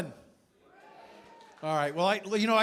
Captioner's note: cheering, applause